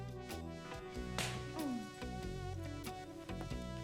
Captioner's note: smack